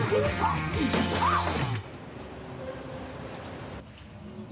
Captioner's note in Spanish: Gritos